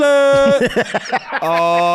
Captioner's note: cackles